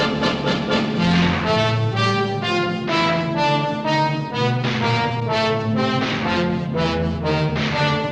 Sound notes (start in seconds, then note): 3.2 guns firing